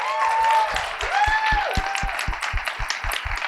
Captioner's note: applause